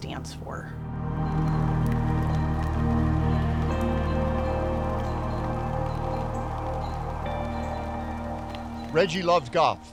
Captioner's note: rain drops